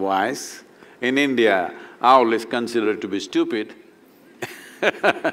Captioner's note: laughs